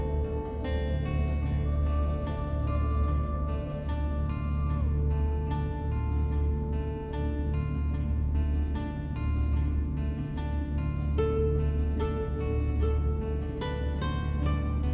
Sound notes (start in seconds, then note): none